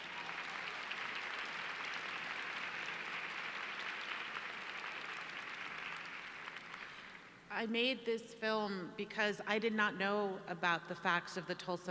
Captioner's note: applause